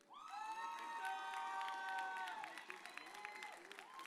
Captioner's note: audience cheers